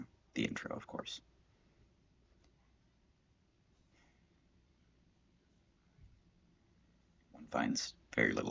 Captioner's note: silence